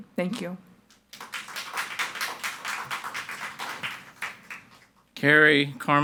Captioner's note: audience applauding